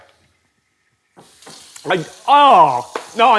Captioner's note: faucet turns on